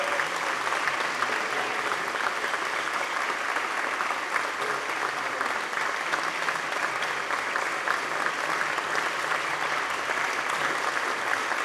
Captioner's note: applause